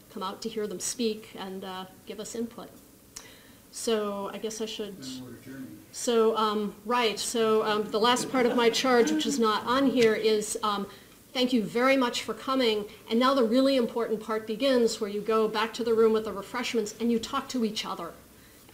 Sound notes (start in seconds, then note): 5.0 voiceover; 7.7 audience laughs